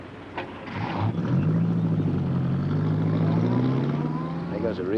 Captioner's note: engine revs